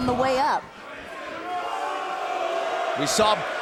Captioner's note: crowd cheering